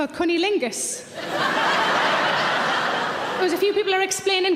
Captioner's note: audience laughing